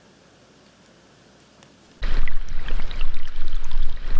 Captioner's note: waterfall sounds